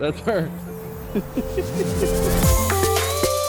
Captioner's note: man 2 laughs; pop music